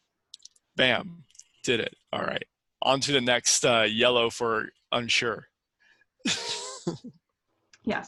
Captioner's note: laughs